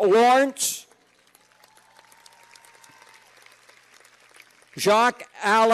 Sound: cheers and applause

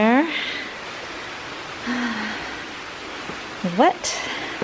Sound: water running

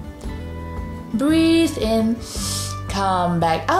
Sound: breathes in deeply

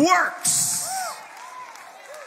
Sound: congregation cheers and claps

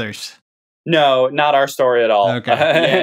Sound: laughter

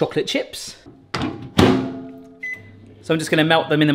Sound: microwave door clunking; microwave button beeps

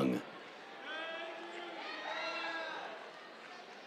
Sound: cheers

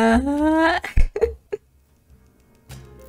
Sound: laugh

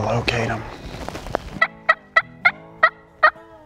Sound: bird call

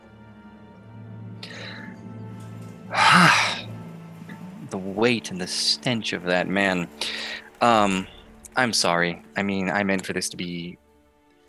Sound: sighs heavily

